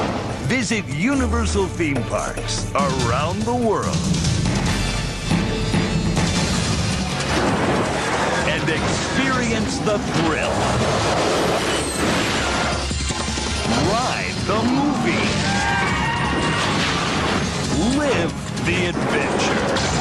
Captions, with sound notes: Visit Universal Theme Parks around the world and experience the thrill, ride the movies, (screaming) live the adventure.